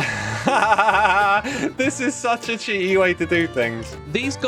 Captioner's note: laughs